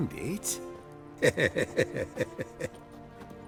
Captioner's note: chuckle